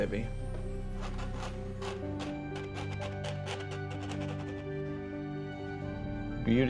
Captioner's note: scratching on canvas